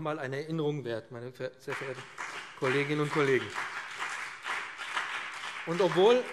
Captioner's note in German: Beifall BÜNDNIS 90/DIE GRÜNEN und CDU